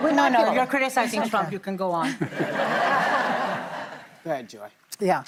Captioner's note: laughter